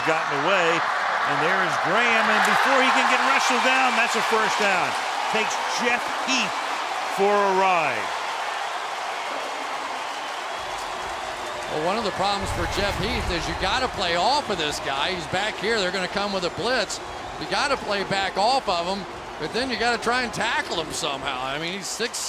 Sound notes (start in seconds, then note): 8.5 cheering